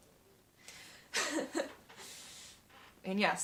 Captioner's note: laugh